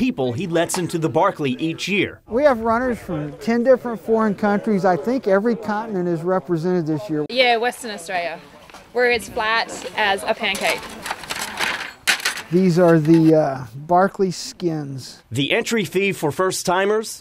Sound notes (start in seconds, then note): 9.8 scraping; 12.0 clattering